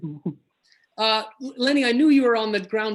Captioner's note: laughs